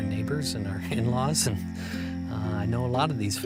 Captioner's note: chuckles